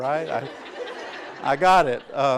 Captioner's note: laughter